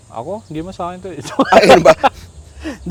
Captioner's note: laughs